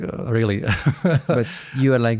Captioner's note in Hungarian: nevetés